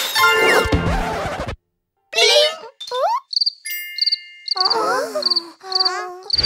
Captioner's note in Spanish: Sonido de grillo